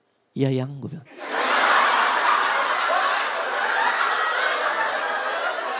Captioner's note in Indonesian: Audience Tertawa Pecah